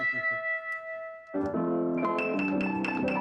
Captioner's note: chuckling; piano music